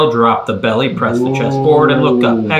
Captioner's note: man imitating cow mooing